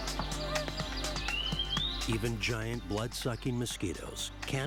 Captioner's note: frogs chirping